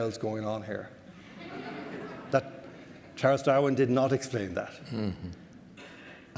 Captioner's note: audience laughter